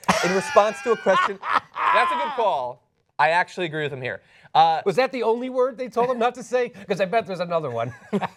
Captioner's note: laughter